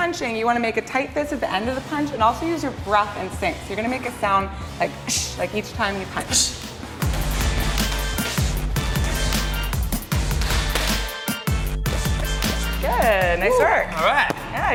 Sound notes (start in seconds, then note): 6.8 bouncy, bass thumping music; 6.8 hushes